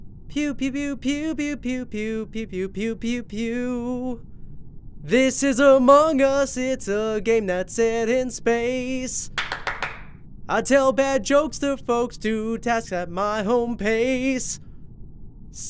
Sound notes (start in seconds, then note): 9.3 claps